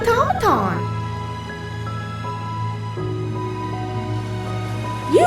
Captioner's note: DAR-C hovering